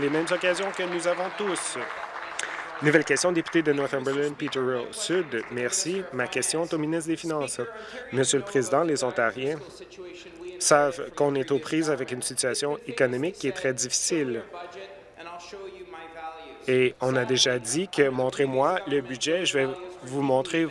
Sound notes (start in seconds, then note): 4.2 applause